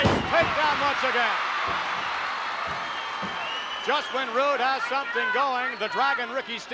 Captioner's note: applause